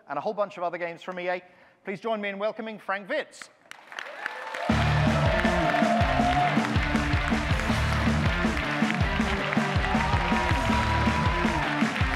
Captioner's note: audience clapping, music